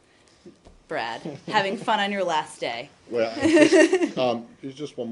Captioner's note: laughter